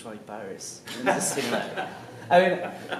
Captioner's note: laughs